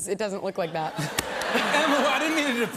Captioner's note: laughter